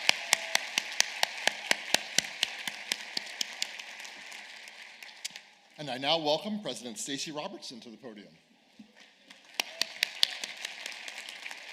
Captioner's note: applause